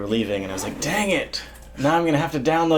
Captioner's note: exasperated